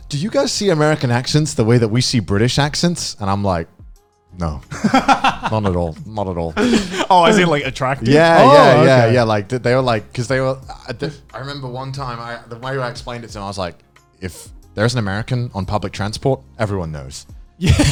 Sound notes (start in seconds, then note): 4.7 laughing; 17.7 laughing